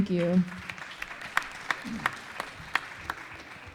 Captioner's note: applause